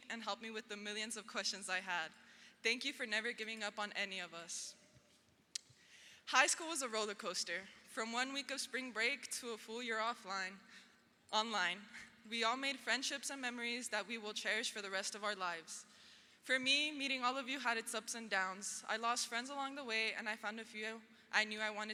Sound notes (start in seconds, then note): none